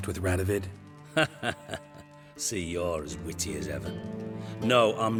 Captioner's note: laugh